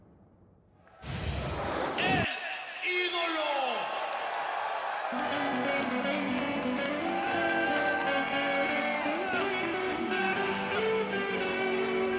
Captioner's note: crowd cheering